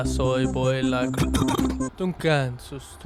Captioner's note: cough